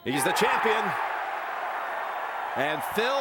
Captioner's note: crowd cheering